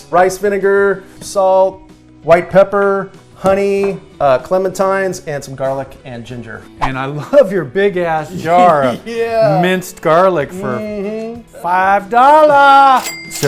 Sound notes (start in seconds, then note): 8.3 laughs